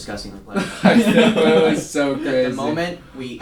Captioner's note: laughs